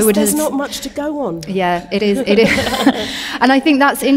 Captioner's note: chuckling